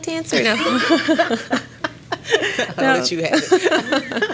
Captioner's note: laughter